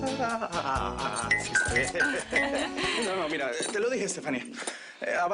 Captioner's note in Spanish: Risas